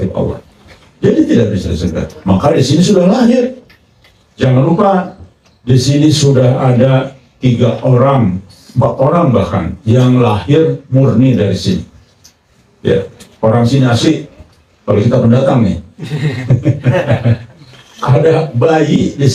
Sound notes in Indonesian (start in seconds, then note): 16.0 tertawa